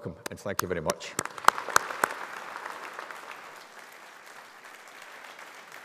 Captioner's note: audience applauding